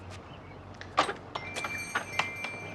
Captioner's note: bell ringing